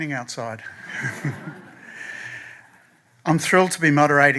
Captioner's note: laughter